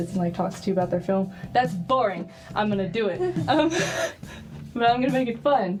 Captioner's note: laughs